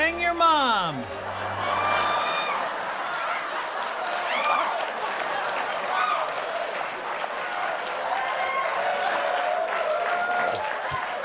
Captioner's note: laughter; applause